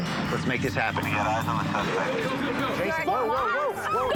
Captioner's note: on phone